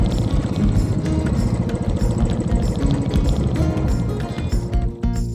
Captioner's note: bike engine